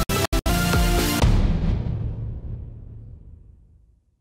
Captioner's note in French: Boum